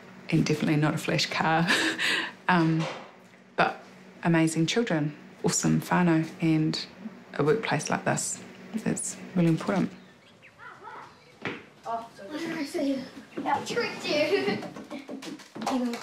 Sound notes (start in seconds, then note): 2.4 laughs; 10.4 children chatter; 14.0 laughs